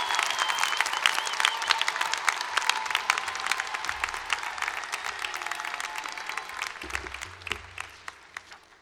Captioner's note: cheering and applause